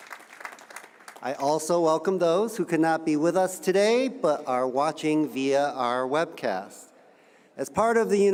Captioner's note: cheers and applause